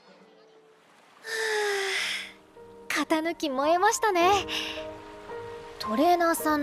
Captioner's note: sigh